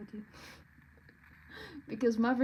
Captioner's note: laughs